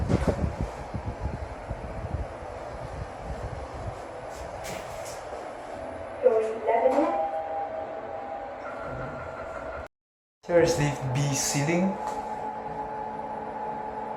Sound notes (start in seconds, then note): 6.7 Chime from Lift B